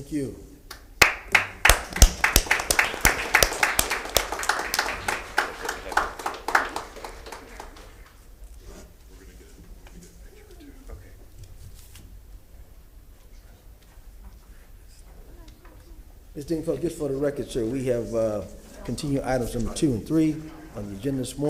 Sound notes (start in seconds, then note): 7.5 applause